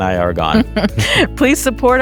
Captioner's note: chuckles